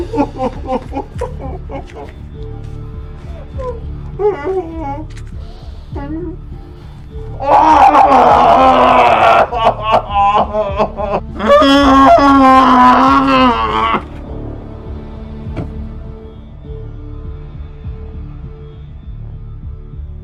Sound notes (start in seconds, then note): 0.0 Patrick sobs; 7.4 Patrick screams; 11.4 Patrick groans; 16.6 tense music continues